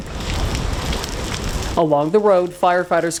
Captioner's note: fire crackling